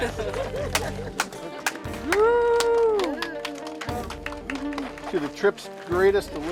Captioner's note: applause